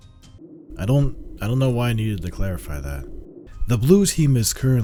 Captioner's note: howling Wind; music pauses